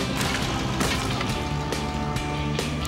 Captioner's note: thud! Thud!